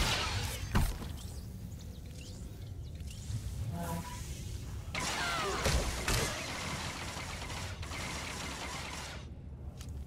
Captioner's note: gunshots